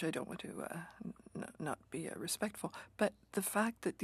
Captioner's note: speaking French